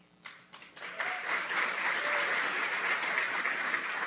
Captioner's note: applause